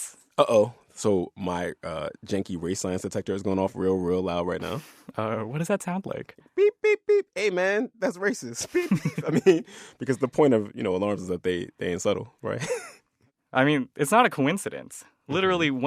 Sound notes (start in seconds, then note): 8.6 laughter; 12.5 laughter